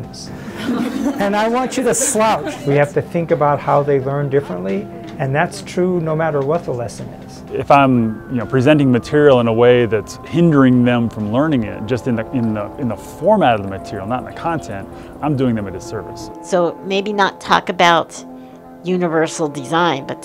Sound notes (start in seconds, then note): 0.4 laughter